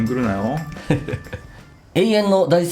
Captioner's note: laughs